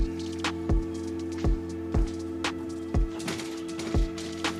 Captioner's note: birds chirping